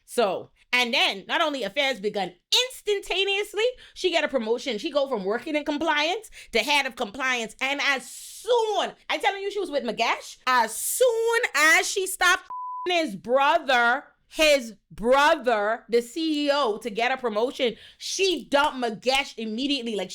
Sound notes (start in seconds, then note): 12.5 beep